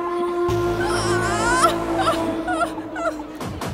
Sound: shouting in pain

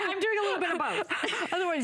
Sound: laughter

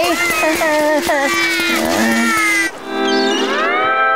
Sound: Junior crying; chuckles

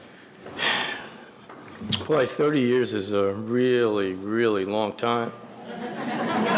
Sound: sighs; audience laughing

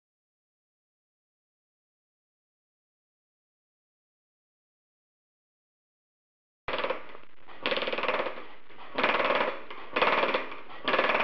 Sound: using air hammer

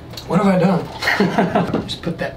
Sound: laughs

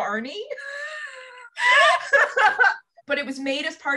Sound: laughter

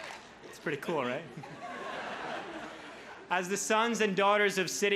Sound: crowd laughs

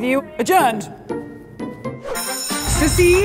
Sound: bell ringing

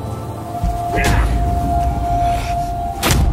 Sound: grunting

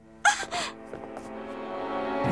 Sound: crunching

